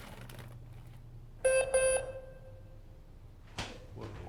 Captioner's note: alarm beeps